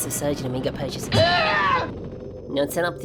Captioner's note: scream